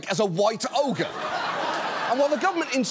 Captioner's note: audience laughs